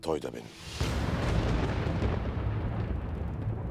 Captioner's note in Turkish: Gök gürültüsü efekti